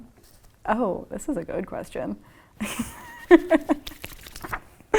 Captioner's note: laughs